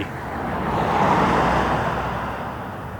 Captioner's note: car driving nearby